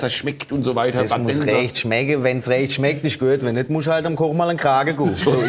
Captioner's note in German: mit schwäbischem Dialekt